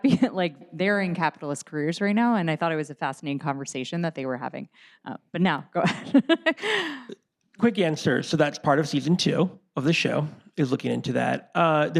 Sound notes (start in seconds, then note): 6.9 laughs